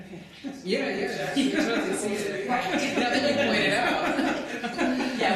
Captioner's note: chatter